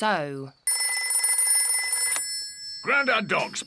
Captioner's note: rings